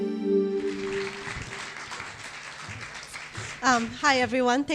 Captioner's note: audience applause